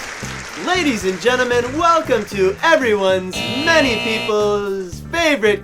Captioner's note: buzzer